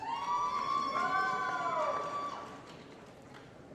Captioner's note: applause & Cheering